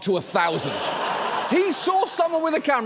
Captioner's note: audience laughs